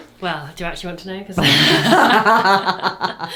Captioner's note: laughing